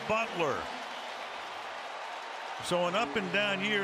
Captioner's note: cheering